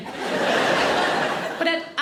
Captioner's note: audience laughing